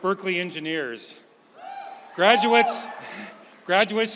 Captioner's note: audience member whooping